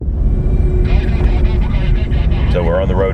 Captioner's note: radio chattering